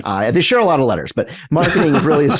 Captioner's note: laughs